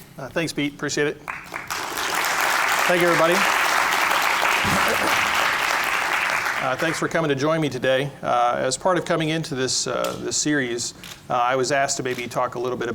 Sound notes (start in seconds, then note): 1.2 applause